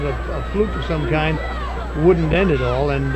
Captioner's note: audience hollering